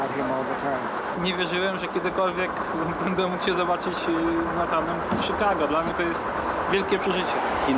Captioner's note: speaking Polish